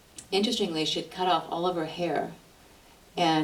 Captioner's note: none